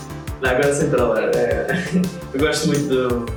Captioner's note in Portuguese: risos